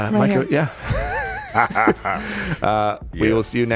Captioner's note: laughing